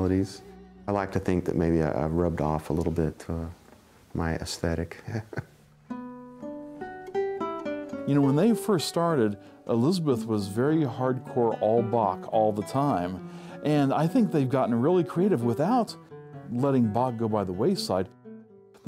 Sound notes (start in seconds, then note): 4.9 chuckles